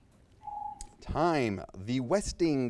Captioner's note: timer beeps